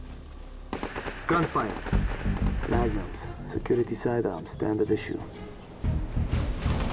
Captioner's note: distant gunfire